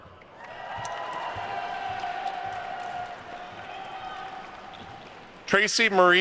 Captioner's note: attendees cheering and applauding